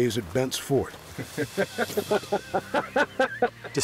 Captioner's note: both laughing